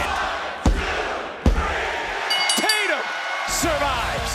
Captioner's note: bell rings